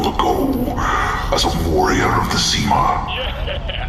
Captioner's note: laughing